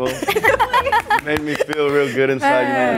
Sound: laughs

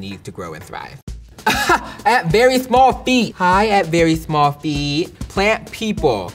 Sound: laughs

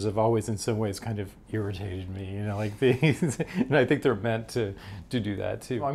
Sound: chuckles

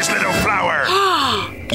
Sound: gasps

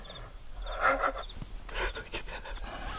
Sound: laughing

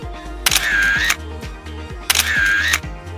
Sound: camera clicks

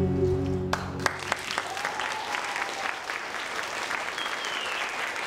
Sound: applauding and cheering

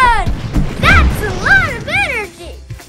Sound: bomb exploding

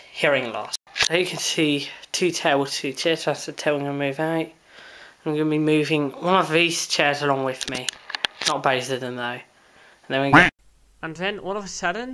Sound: quack

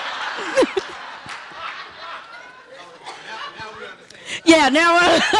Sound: audience laughing

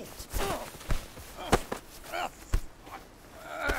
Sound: grunting

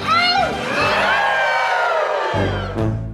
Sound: howls; all howl

